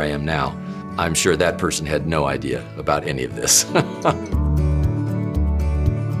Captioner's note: laughs